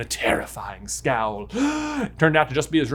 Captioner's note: gasps